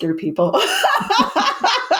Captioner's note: laughs